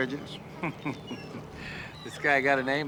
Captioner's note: chuckles